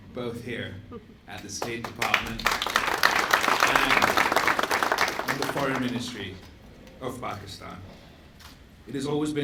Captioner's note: applause